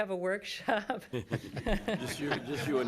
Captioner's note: laughing